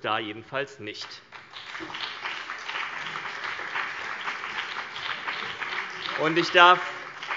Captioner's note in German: Beifall BÜNDNIS 90/DIE GRÜNEN und vereinzelt CDU